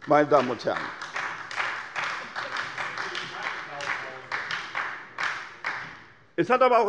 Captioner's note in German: Beifall bei der SPD